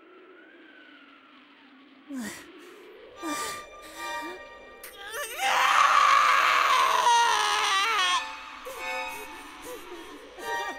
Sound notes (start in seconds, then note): 4.9 anguished cry; 4.9 crying